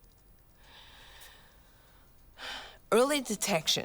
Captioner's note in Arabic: تنهد